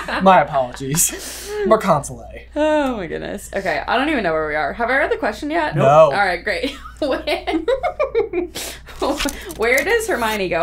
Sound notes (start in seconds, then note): 0.0 laughter; 5.8 laughs